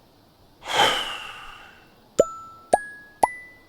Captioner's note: exhale; ascending pop dings